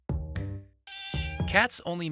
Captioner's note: cat meows